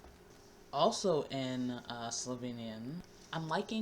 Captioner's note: slovene